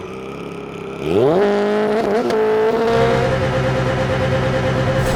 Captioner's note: revving